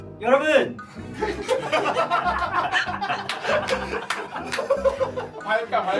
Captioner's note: failed to hold back laughter